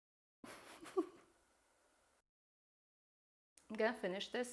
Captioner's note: chuckling